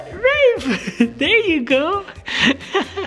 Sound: laughs

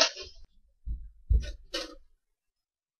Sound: Big Man opens door

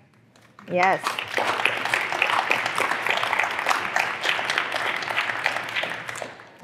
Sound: applause

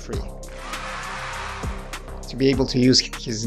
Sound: people cheering

